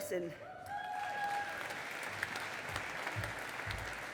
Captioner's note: audience applauding